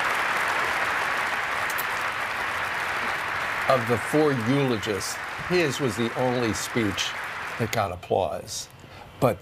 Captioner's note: applause